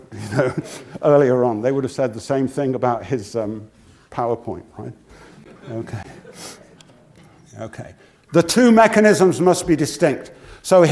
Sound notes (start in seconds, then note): 0.2 laugh